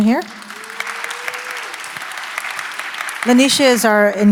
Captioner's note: audience applauding